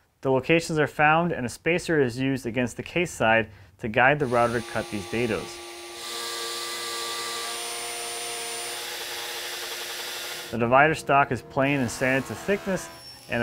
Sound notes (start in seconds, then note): 5.8 router buzzes